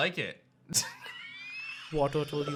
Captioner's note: giggles